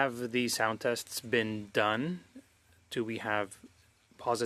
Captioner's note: speaking French